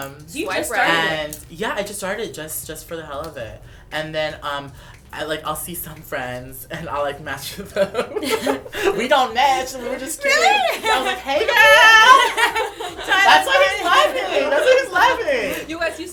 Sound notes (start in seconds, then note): 7.4 laughter; 10.3 laughter